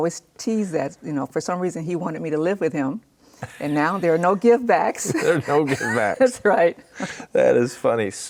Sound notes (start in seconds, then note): 3.4 laughs